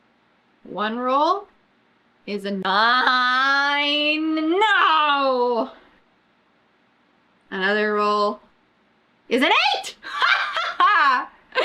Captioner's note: laughs